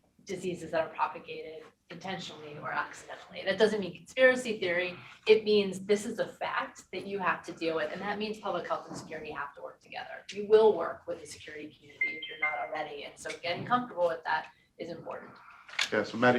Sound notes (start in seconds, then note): 12.0 device pinging